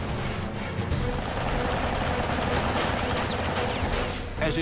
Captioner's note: gunfire